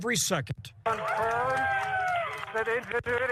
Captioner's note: cheering